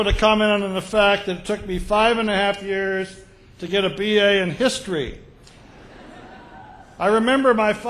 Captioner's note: laughter